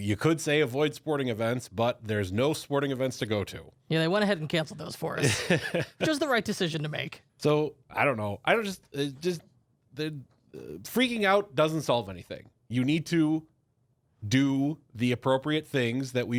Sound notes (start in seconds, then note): 5.2 laughs